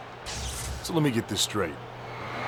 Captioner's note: electricity crackling